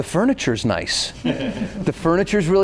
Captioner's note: others laughing